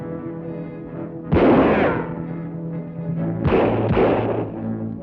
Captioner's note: guns fire